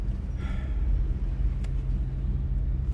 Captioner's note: sighing